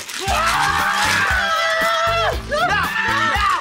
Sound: maracas rattling; screaming

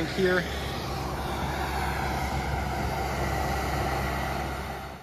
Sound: machinery running

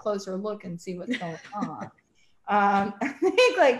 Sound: laughs

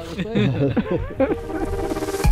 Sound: laughing

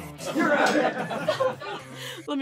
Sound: laughing

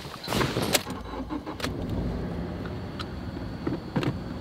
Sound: engine puttering

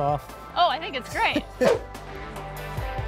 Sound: laughs; mellow electronic music continues

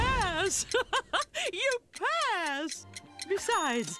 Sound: laughing

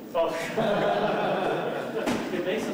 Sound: laughter

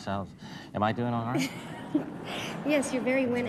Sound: laughter

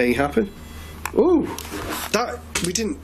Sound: beeping

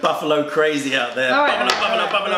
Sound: laughter

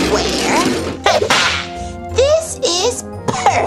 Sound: whip cracks

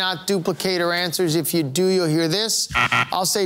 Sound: buzzer sounding

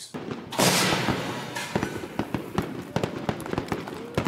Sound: fireworks popping

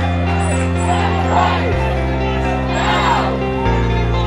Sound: crowd

